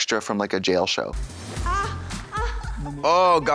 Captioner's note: whimpers